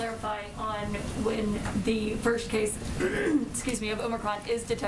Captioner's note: coughs